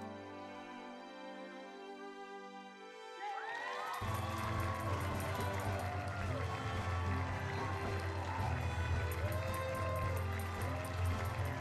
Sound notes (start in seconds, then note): 3.1 cheering and applause